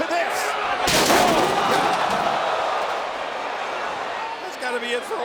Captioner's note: crowd exclaiming; Randy thudding